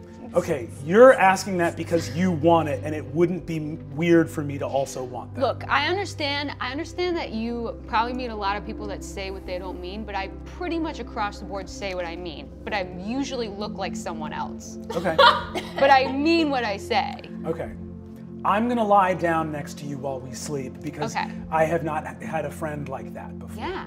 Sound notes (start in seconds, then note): 14.9 laughs